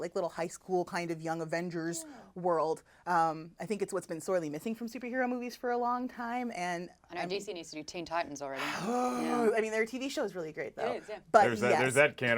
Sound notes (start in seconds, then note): 8.6 sighs loudly